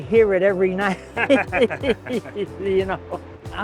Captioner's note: both laughing